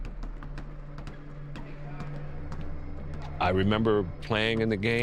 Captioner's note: balls thudding; people murmuring